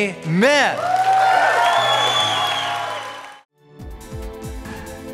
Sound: cheering

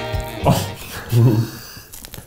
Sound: laughing

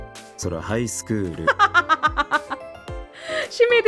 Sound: chuckles

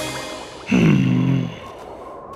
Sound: sighs

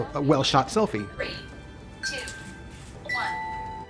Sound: phone bleeps

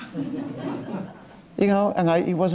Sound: laughing

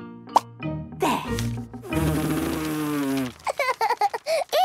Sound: blows

